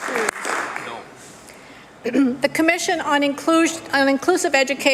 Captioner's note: applause